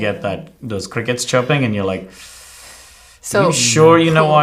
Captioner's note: anxiously inhales